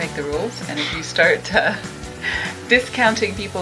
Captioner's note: scoffs